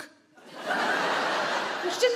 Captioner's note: audience laugh